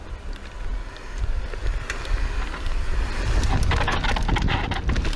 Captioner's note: bicycle tires rumbling